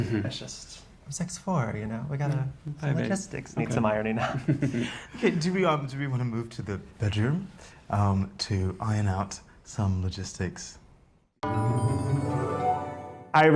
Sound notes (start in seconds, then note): 4.2 chuckles; 11.4 suspenseful music